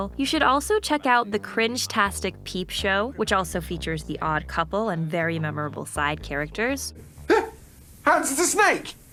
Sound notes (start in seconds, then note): 2.7 A man painted silver who makes robot noises!